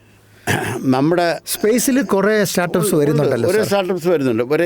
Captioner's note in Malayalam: തൊണ്ട ശരിയാക്കുന്നു